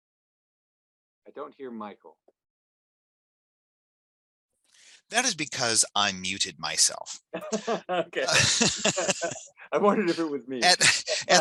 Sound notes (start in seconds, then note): 7.1 laughing